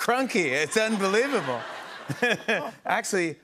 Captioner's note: laughter